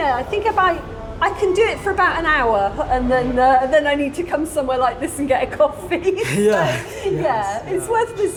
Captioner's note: laughing